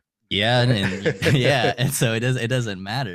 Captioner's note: both laughing